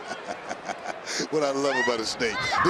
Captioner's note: laughs